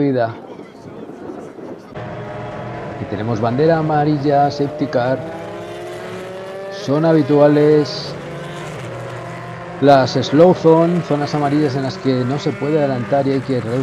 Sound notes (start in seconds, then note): 8.5 motors